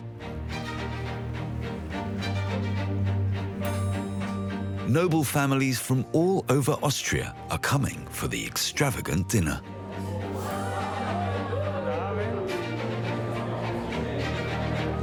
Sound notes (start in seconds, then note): 0.1 gentle music continues; 9.7 guests chattering